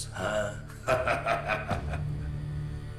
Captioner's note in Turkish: Alıncak gülüyor